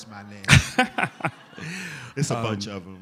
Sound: laughter

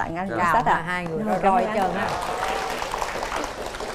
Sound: applause

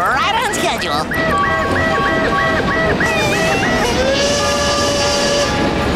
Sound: train horn blowing

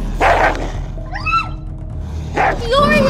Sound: Feoria yelping; snapping

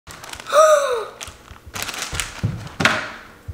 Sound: gasps

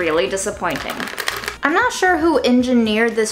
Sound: pasta rattling

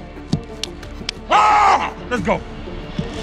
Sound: screaming

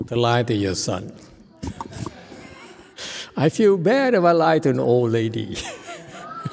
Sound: laughs; laughs

